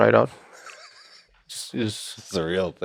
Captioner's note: Lex laughing